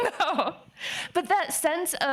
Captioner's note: laughing